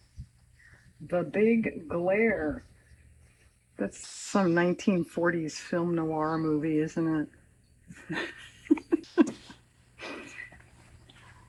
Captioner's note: laughs